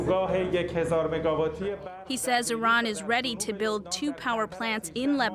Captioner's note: speaking Foreign Language